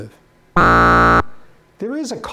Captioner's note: buzzer